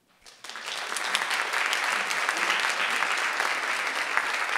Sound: audience applauding

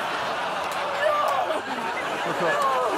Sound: audience laughing

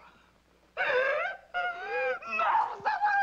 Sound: Katie sobbing

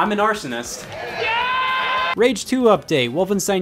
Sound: cheering

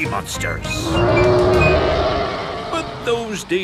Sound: roaring

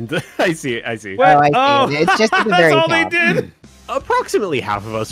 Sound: laughs

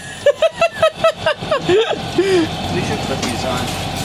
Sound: laughter

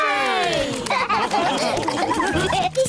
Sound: all laugh

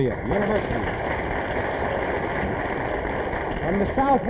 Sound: applause

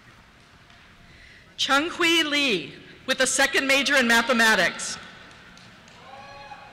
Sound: cheers

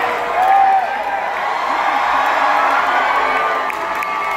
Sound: cheering swells

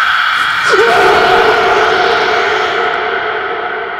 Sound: screams; ghostly shriek; the screams fade out slowly

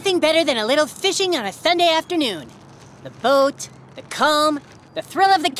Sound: none

